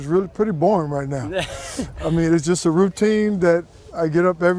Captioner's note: laughs